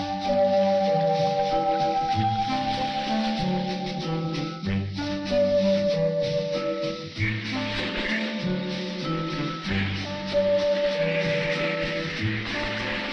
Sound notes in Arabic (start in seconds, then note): 3.6 تستمر الموسيقى الخفيفة المرحة; 7.2 البط ينقنق